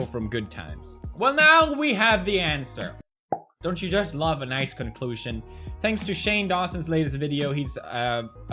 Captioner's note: pop